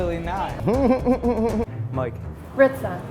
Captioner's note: laughs